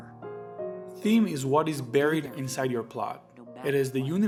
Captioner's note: voiceover